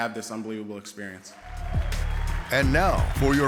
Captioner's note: applause